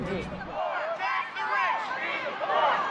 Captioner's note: crowd